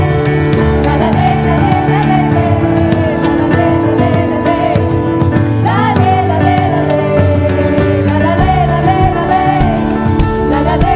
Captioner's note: cheering/Applause